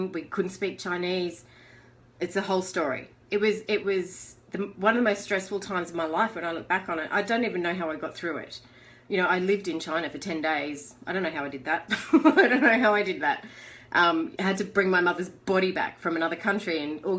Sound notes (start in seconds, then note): 11.9 laughter